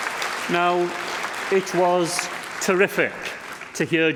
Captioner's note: applause